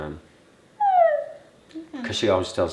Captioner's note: coos